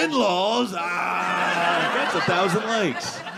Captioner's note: audience laughing